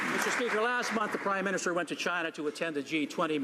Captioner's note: some Applause